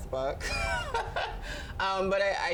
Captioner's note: laughs